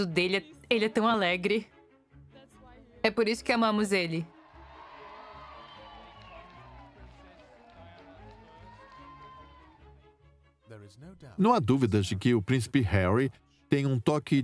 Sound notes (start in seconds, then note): 4.2 crowd cheering; 9.4 voiceover